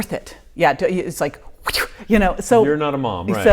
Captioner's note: mimicking slapping whoosh; laughing